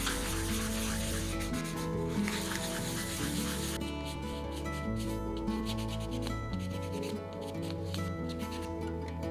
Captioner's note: rough sandpaper